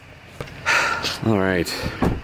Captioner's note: deep sigh of relief; door close